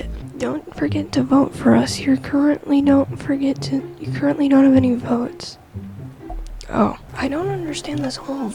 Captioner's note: studder